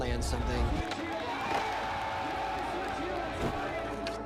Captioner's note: crowd cheering